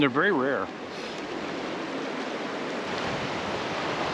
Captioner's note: water flowing